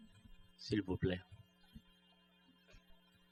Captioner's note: speaking french